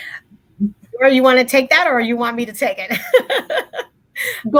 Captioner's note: laughs